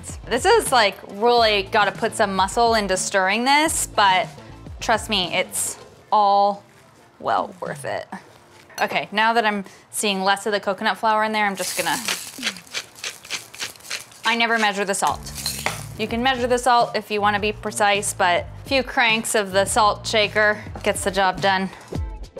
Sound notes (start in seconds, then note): 11.6 grinding